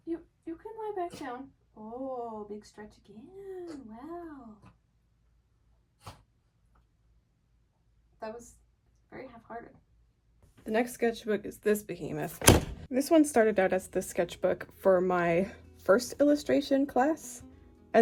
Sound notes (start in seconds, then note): 5.9 dog snorting noises; 12.4 slam